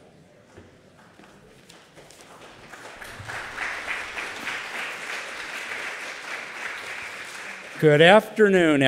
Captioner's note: applause